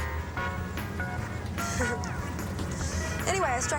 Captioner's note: laughs nervously